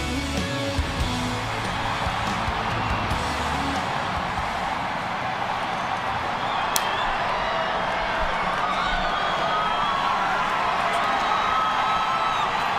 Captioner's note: crowd cheering